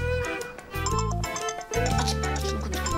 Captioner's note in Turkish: Telefon zili sesi